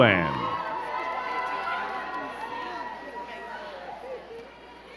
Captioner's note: crowd cheering and clapping